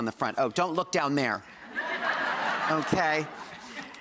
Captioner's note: audience laughs